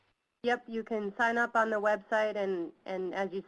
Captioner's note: voiceover